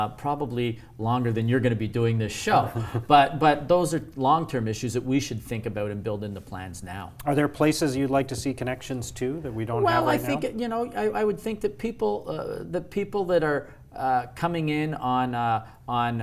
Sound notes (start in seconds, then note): 2.7 laugh